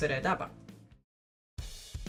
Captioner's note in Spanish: silencio incomodo